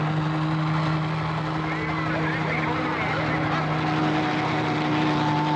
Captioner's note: chattering